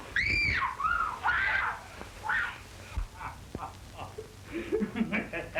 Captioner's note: screaming; laughter